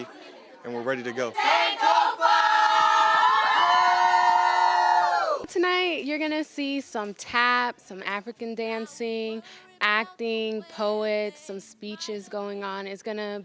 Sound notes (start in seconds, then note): 4.4 cheers and applause